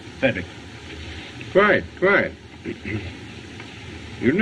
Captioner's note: clears Throat